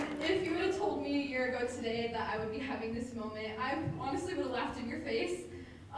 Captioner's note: applause